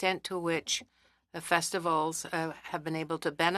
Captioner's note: speaking French